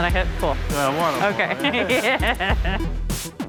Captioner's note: laughs